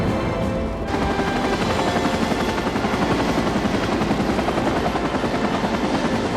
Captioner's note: helicopter rotors whirring